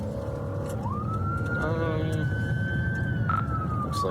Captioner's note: siren wailing